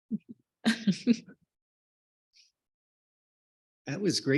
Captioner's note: chuckles